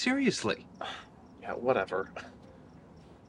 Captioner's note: scoffs